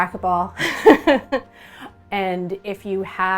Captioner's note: laughs